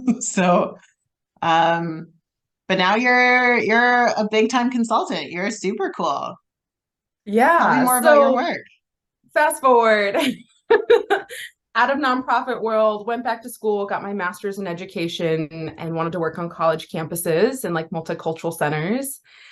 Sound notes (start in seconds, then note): 10.7 laughs